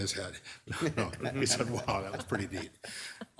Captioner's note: laughing